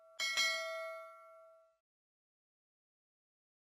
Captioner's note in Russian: колокольчик